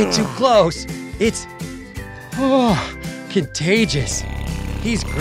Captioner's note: yawns